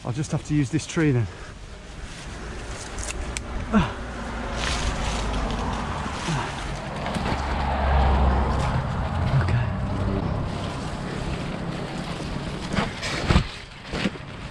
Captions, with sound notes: I'll just have to use this tree then. (grunting) (branches tweaking) Okay. (leaves rustling)